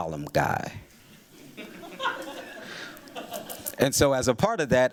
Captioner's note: laughter